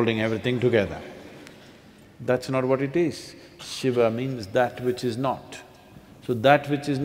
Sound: few laugh

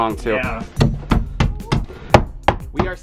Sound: hammering nails

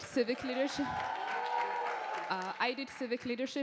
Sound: attendees cheering

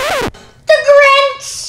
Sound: record scratch

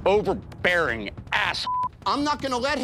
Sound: beep

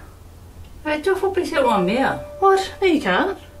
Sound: speaking in Samoan

